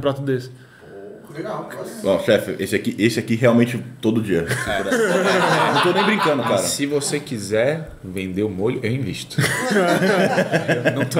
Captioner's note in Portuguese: risos; risos